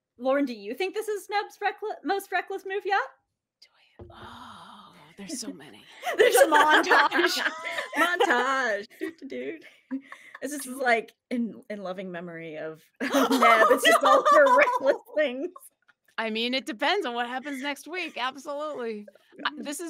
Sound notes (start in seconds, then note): 6.0 laughs